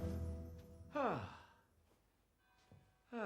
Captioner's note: sighs